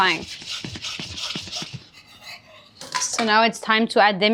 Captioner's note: pan scraping